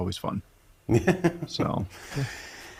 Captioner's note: man chuckles